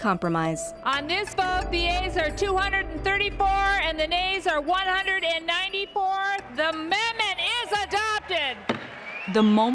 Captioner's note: gavel bangs